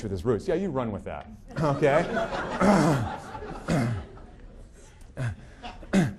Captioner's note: audience laughing